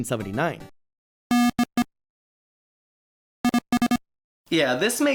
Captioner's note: sporadic beeps